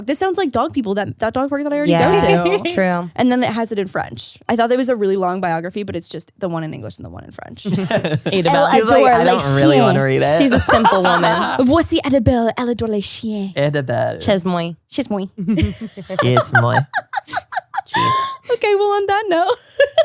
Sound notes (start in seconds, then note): 11.5 speaking foreign language